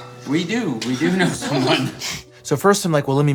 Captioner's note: laughs